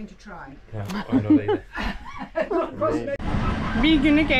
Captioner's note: laughters